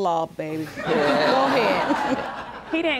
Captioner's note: audience laughing